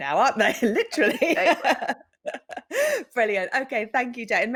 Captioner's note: chuckles